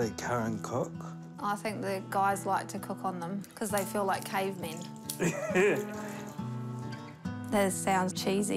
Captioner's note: chuckles